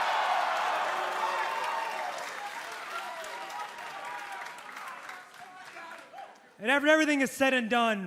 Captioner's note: crowd cheering